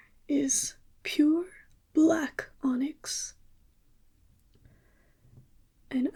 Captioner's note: none